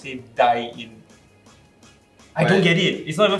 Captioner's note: silence